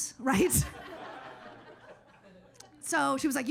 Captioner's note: audience laughs